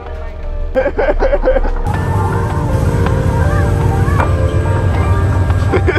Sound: everyone laughing; wind whistling; upbeat chill music; costumed person laughs

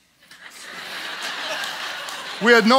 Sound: audience laughs

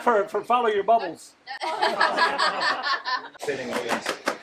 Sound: all Laughing

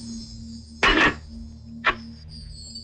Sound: bottle thud

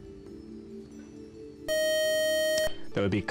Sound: time-up buzzer

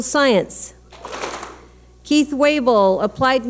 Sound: clap smack

